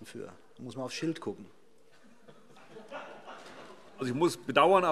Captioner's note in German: Heiterkeit CDU und BÜNDNIS 90/DIE GRÜNEN